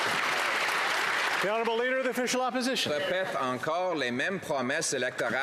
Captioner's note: some Applause